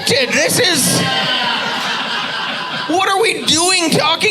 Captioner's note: audience laughing